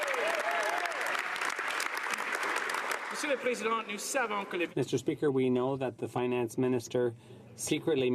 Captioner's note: some Applause